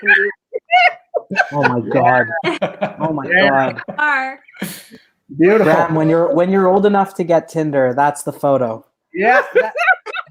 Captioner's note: laughter